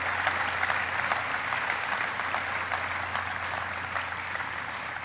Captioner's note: applause